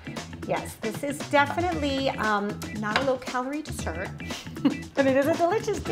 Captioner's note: laughs